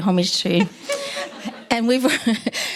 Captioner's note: audience laughing